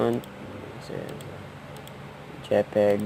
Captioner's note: mouse click